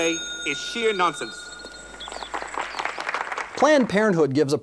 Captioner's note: applause